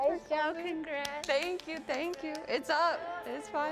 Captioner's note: clapping